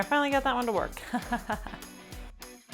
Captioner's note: laughing; upbeat music